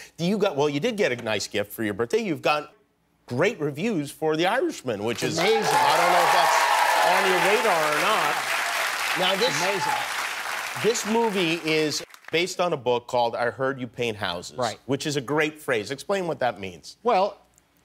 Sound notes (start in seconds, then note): 9.7 cheers and applause